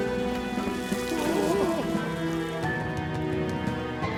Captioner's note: rocks and gravel falling